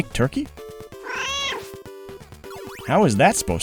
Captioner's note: meow